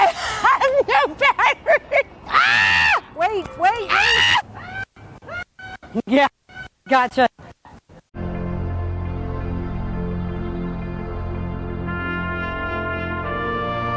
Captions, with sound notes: (laughs) (loud screaming) - Wait, wait! (loud screaming) - Yeah, gotcha. (classical music)